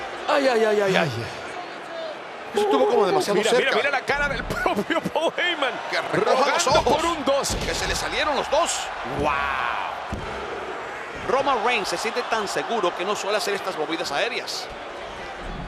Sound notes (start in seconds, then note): 4.9 laugh